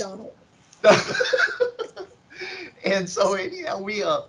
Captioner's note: laughs